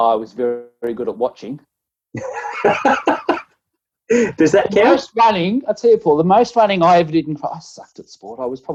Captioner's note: laughing